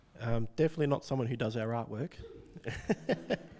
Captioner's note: laughs